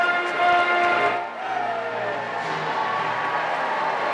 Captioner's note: cheers and applause